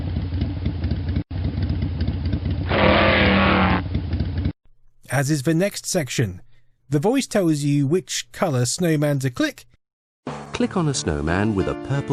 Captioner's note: zoooom